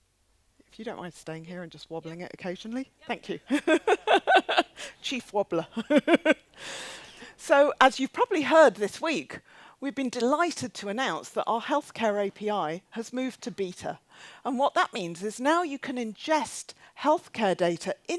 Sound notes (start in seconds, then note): 5.7 laughs